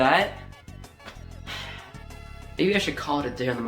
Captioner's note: sigh